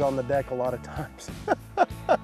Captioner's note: laughs